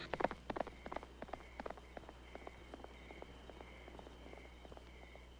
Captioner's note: crickets chirping; horse clopping